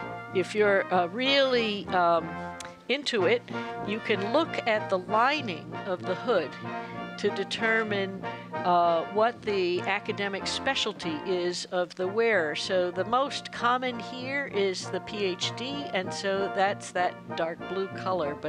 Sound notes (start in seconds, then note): none